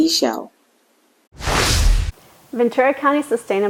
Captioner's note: graphics whooshing